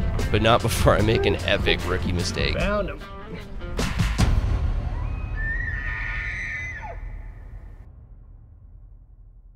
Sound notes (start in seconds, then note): 3.7 relaxed music; 5.3 elk calls